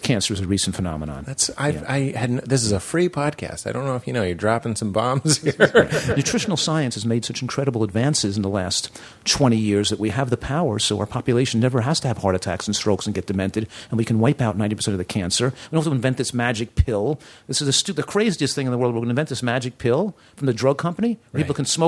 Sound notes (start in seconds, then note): 5.1 laughter